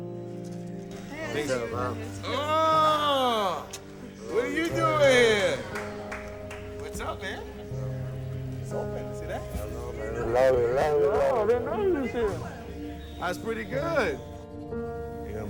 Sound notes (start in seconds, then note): 2.8 kissing